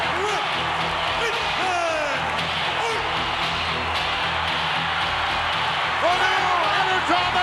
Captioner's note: applause